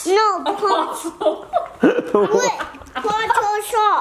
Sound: laughs

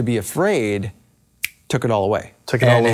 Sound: fingers snap

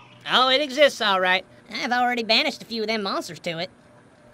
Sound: none

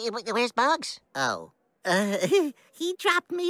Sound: nervous laughter

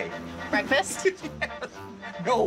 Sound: giggles

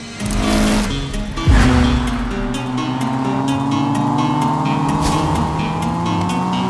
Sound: car engine revving; upbeat music

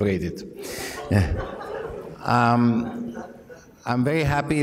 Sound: laughter

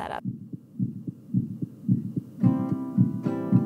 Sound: heartbeat; guitar chords

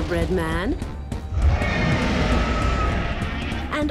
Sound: roars

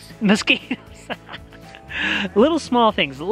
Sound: laughs

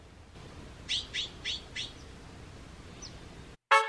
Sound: sound of birds chirping

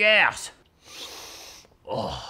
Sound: sniffs

